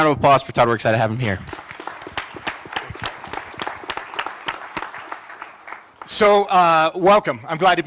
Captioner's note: applause